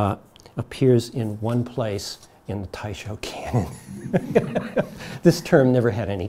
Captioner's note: audience laughs